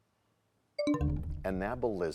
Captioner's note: bell chimes, time expires